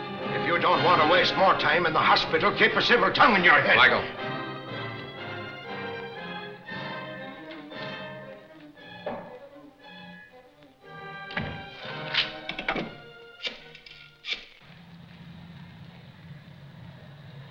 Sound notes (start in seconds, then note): 4.9 dramatic music; 11.2 door shutting; 11.8 phone dial clicking